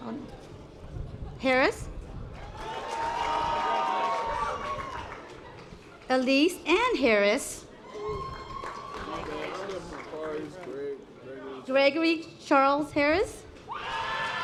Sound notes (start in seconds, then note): 8.2 audience applause; 14.1 audience applause